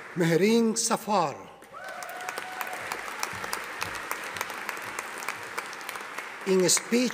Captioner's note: audience applauding